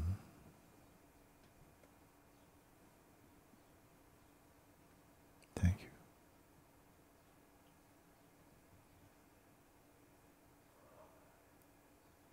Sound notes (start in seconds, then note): 8.1 silence